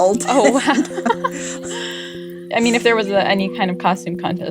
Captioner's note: laughter